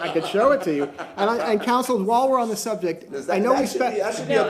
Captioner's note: laughter